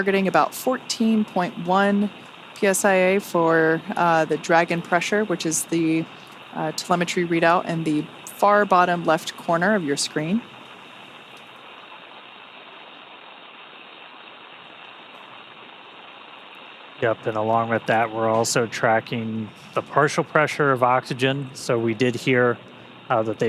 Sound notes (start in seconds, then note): 14.6 radio Chatter